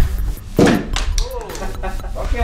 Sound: soft explosion; laughs

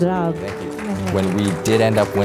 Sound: applause

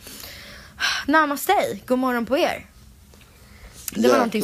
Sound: sigh

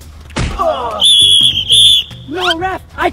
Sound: whistles

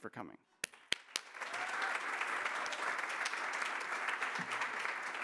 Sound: applause

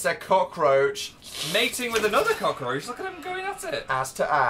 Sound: cockroach noises

